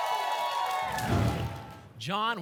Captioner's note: applause and cheering; whoosh